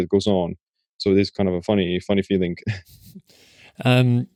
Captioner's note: chuckling